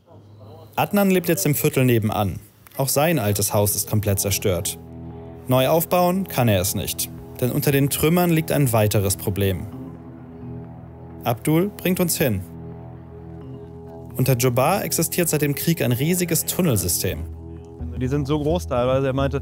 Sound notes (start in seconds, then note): 10.1 dark sounds